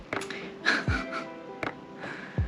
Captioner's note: laughing